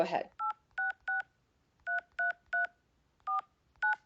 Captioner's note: phone dialing